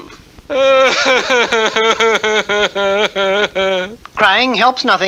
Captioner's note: King Cup cries hard